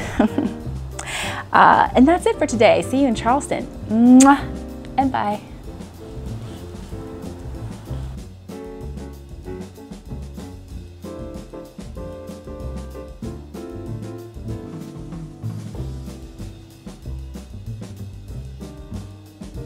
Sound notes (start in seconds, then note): 0.1 laughs; 4.0 kiss